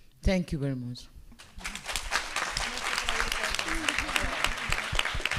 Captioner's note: speaking spanish; applause